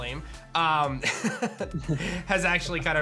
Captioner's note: laughs